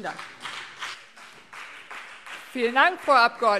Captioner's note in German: Beifall BÜNDNIS 90/DIE GRÜNEN und CDU